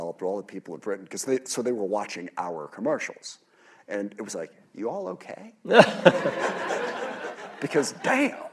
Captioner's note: laughter